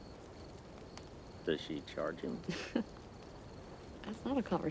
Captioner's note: Joe giggles